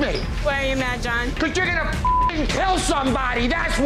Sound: beeping

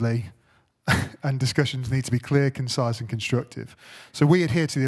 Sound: chuckles

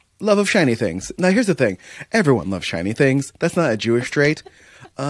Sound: laughter

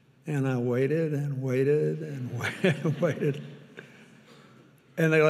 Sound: chuckles; audience laughing

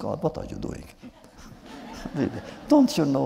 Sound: laughter

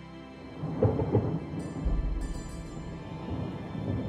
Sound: thunder rumbling

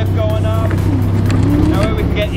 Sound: humming

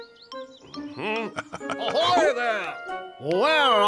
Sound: chuckles

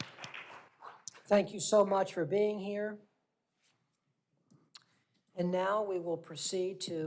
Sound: applause

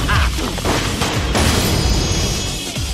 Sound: gunshots

